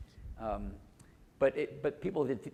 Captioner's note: none